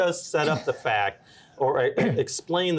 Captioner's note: throat clearing